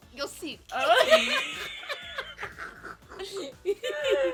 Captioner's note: laughs